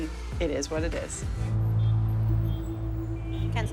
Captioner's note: cars honking